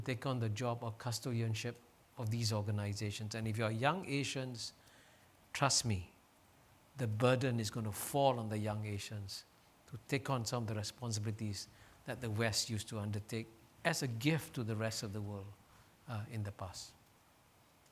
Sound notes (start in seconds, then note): none